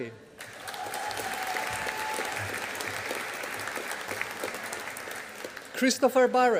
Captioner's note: audience applauding